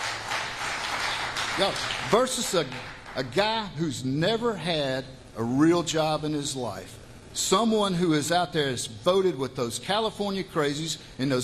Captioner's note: applause